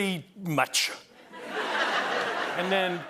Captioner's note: laughter